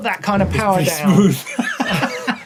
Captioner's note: laughs